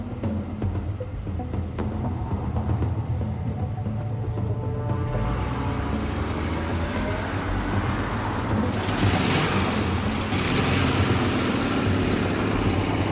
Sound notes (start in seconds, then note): 5.0 engine rumbling